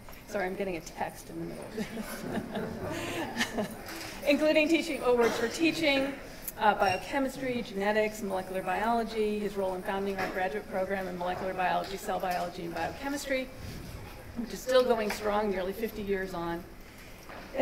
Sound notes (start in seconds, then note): 1.7 chuckles